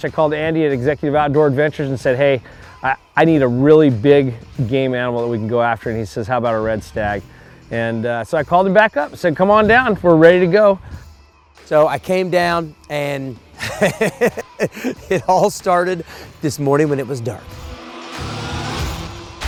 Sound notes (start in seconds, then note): 13.6 laughs